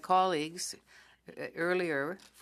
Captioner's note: speaking french